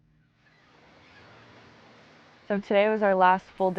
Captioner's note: waves crashing; seagulls squawking